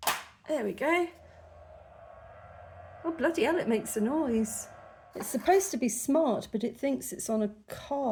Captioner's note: fan noise